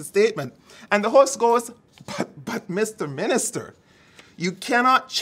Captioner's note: laughs